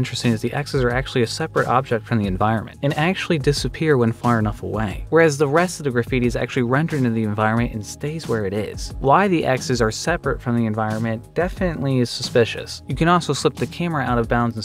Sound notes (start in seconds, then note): none